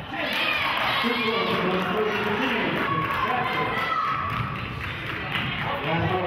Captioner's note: cheering and clapping